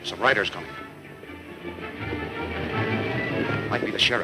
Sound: fast hoof beats

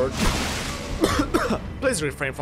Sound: double cough

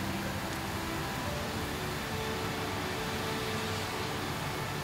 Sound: rain picks up

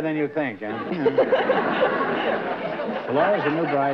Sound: laughter

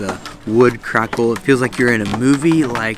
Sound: bridge crackling

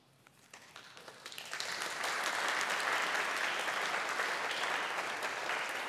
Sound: audience applauding

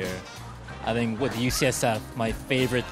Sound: people chattering distantly

